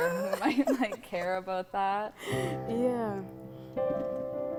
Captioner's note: laughing